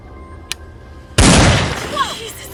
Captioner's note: rifle clicks; rifle bangs